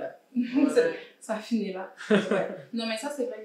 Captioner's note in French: rires